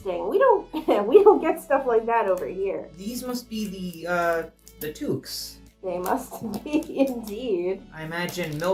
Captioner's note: laughing